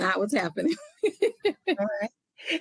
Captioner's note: laughs